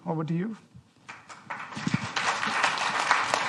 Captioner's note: applause